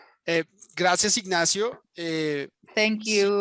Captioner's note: speaking in Spanish